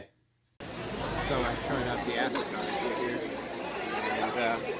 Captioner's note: crowd chatting